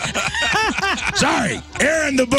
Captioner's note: laughing